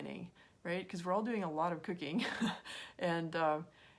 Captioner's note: chuckles